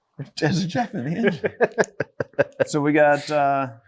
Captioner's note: chuckling